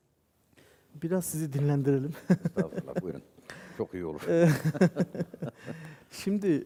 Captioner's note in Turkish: kahkaha